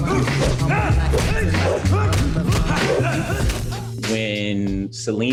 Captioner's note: grunting